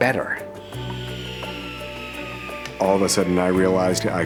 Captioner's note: wood saw runs